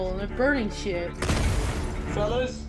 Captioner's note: molotov exploding